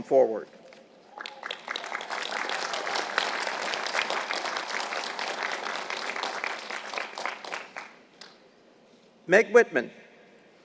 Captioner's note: applause